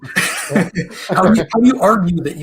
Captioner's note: laughter